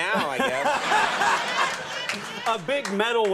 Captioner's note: audience laughs